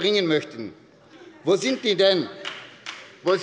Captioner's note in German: Beifall bei Abgeordneten der SPD